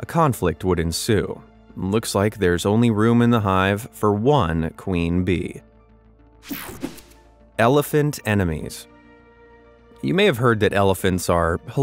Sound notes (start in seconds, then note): 6.4 picture whooshing